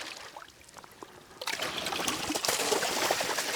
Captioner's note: water splashing